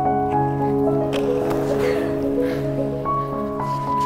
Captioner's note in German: Leidenschaftliche Klaviermusik; Keuchen